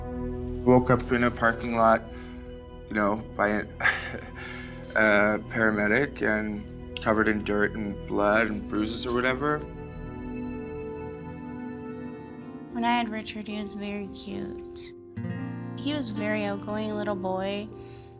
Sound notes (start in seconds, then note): 3.8 laughs; 9.4 somber music plays